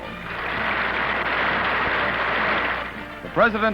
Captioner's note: clapping